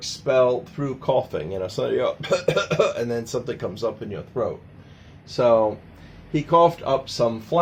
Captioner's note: coughing sounds